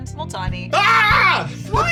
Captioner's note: screams